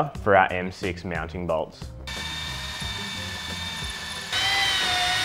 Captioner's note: tool whirrs